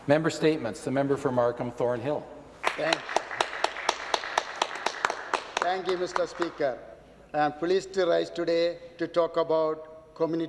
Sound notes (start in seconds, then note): 2.1 speaking Alternate Language